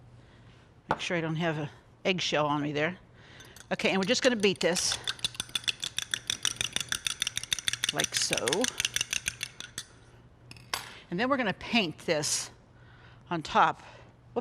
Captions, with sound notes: Make sure I don't have an eggshell on me there. Okay. And we're just going to beat this -- [ Beating eggs ] -- like so. And then we're going to paint this on top.